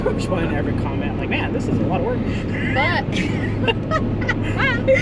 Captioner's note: both laugh